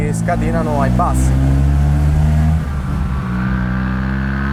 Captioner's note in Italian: Motore che sale di giri